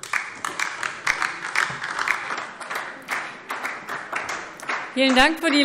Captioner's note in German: Beifall DIE LINKE und vereinzelt SPD